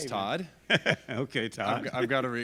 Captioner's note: laughs